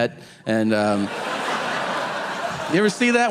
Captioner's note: audience laughing